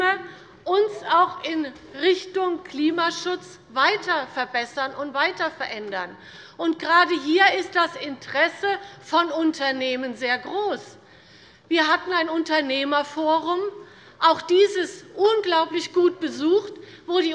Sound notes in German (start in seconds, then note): none